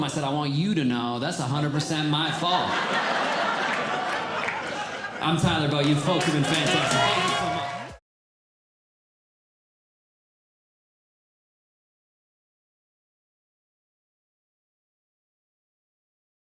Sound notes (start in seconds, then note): 3.4 audience Laughing